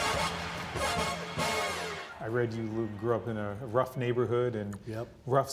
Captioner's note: applause